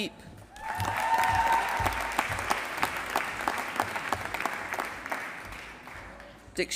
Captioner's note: applause